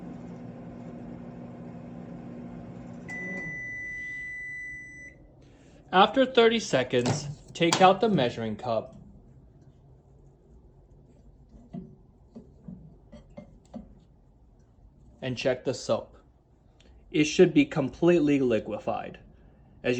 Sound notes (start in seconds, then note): 2.9 microwave beeps